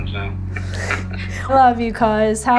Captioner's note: both chuckling